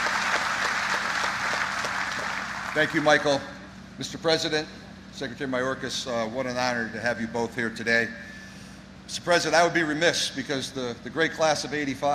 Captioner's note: applause